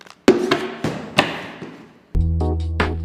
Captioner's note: thudding; light music